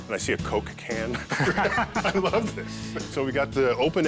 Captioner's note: chuckling